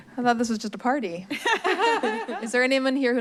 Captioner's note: laugh